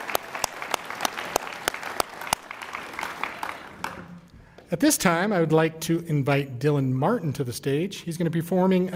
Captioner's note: applause